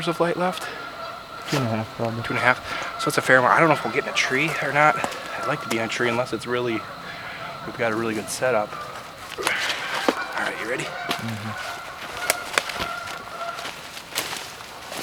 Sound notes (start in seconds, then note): 9.7 canada geese calling; 14.1 walking noise